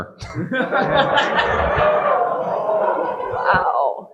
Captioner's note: audience laughing